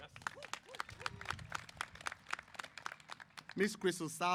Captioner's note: applause